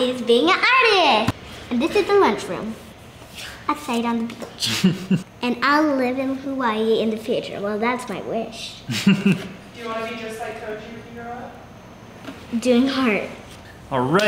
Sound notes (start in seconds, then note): 8.8 chuckling